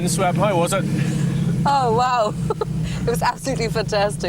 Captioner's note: laughs